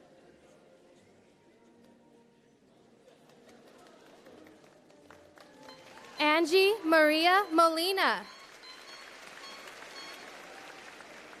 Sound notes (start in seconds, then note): 4.3 applause